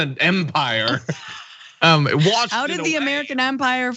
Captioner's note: laugh